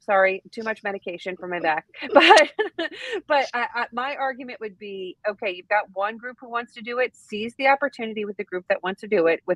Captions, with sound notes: Sorry. Too much medication for my back. But. (laughs) But my argument would be, okay, you've got one group who wants to do it, sees the opportunity with the group that wants to do it